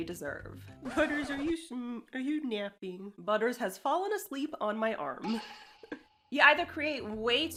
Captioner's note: chuckles